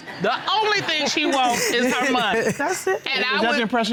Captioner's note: laughing